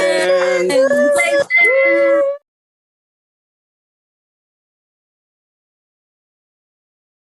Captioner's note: cheers